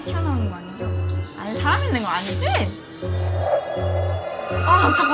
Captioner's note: peep